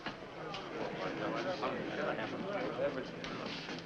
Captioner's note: men murmuring